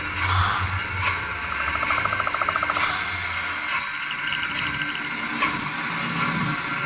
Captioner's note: Dorothy gasping; creature chittering